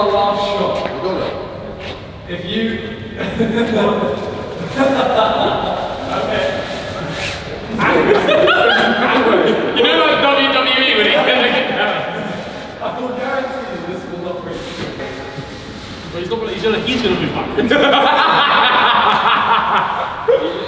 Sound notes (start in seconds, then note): 4.5 laughing; 7.5 group laughing; 17.5 laughing